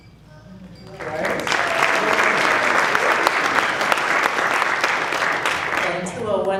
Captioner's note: applause